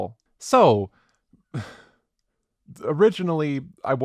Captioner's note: sighs